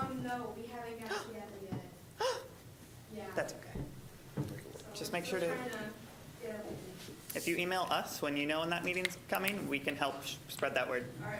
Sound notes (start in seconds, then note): 2.2 gasping dramatically